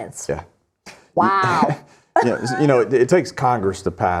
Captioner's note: laughs